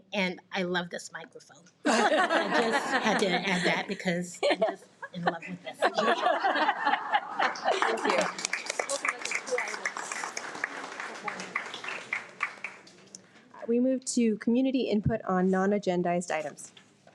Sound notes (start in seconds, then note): 6.4 attendees applaud; 6.5 board members and attendees laugh